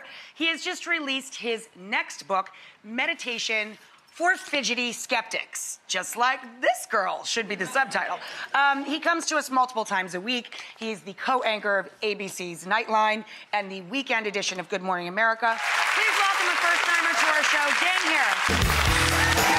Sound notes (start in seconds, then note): 15.5 audience clapping; 19.2 upbeat music and audience cheering